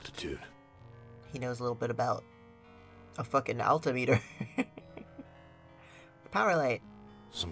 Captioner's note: laughs